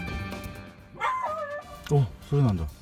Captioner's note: barking sound